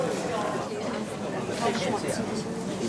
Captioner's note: indistinct chatter